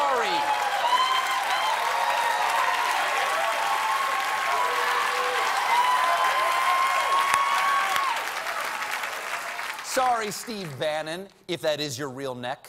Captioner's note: cheers and applause